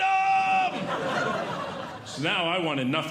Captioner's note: audience Laughing